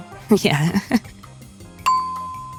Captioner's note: laughs